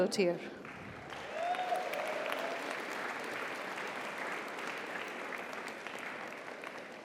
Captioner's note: audience applauds; audience cheers